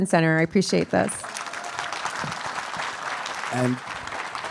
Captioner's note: attendees applauding and cheering